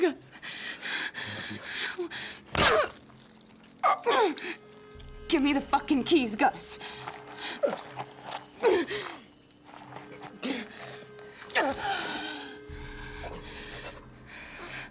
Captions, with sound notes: Gus. [Grunts] Give me the fucking keys, Gus. [Taking deep breaths]